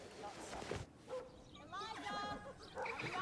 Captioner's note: dog barks